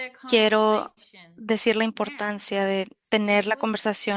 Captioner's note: speaking spanish